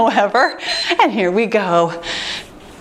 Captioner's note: timer beeps